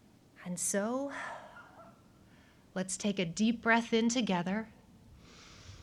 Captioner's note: inhales